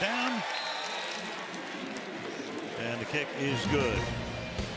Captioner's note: whistle